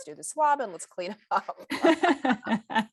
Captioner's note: laughter